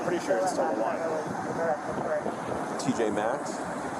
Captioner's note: radio chatter